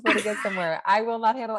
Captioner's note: laughs